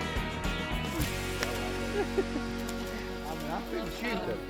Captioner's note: men laughing